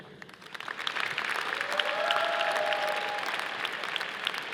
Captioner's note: audience applauding